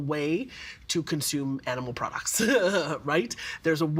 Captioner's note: laughing